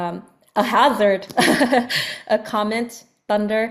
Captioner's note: laughs